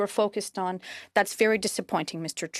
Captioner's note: speaking French